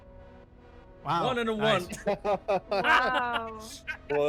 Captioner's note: laughs